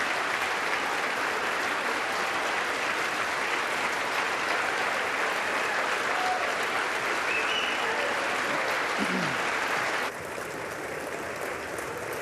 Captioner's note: cheers and applause